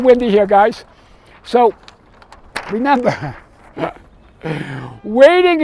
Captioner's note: laughs